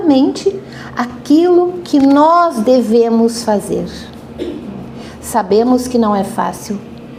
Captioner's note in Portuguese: limpando a garganta